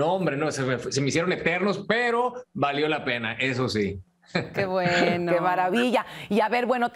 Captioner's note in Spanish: risas